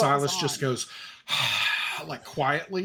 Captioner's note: exhales